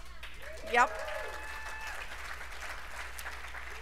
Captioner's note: cheers and applause